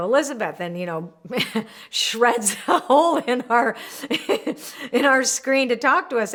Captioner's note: laughing